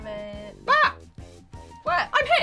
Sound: yells

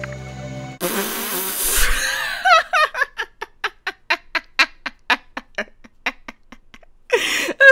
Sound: bursts out laughing

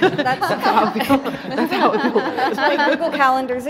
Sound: interviewees laughing

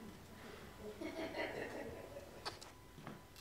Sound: audience giggles

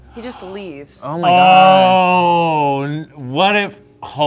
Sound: gasps

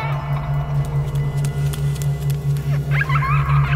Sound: footsteps pattering; child laughing

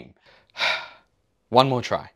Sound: sigh

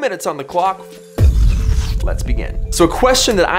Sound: deep banging

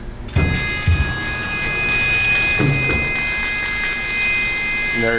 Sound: machine buzzes

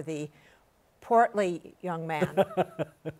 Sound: laughs

